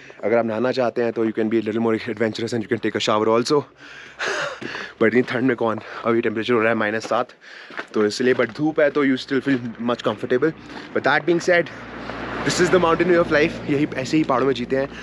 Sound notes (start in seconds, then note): 4.2 giggles